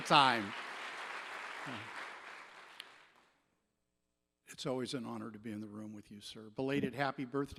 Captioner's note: applause